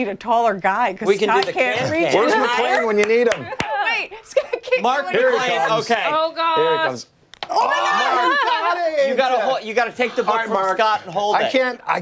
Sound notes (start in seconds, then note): 7.7 laughter